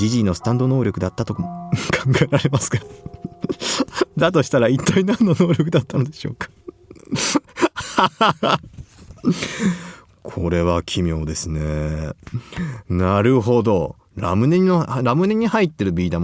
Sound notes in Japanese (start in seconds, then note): 3.5 笑い